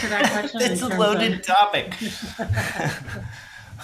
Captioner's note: laughing; laughs